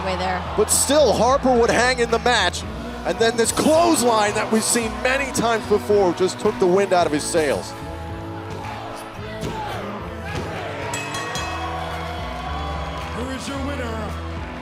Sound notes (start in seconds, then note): 10.8 bell ringing; 11.1 crowd cheering